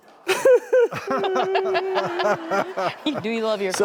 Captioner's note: audience gasps; audience laughing; fake crying